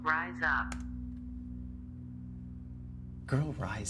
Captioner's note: keyboard key clicks